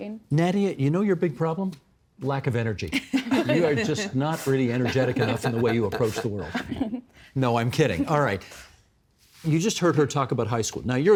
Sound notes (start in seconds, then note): 3.0 laughing